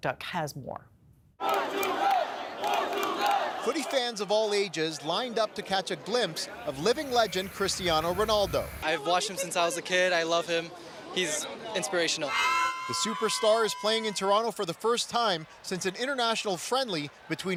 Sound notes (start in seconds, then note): 8.3 cheers